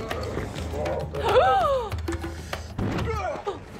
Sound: gasps

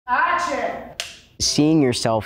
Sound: clapboard clapping

